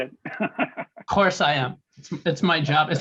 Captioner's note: chuckling